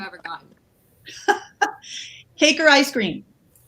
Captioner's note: laughs